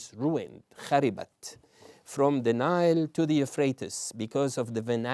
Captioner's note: non-english